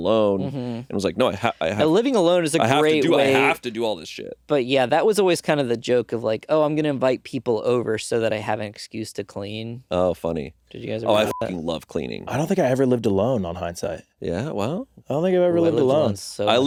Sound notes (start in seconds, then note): 11.2 beeping